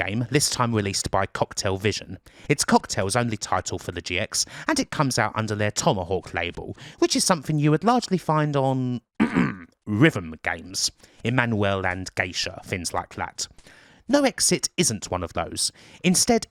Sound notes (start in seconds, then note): 9.2 ahem